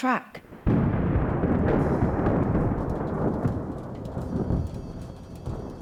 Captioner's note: thunder and rain